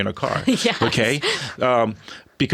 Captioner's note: laughing